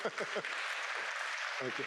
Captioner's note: applause